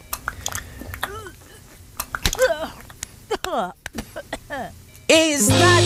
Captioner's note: chewing and gagging